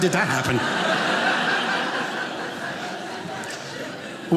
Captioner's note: audience laughing